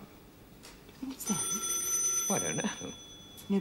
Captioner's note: telephone rings